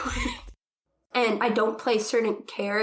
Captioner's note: laughs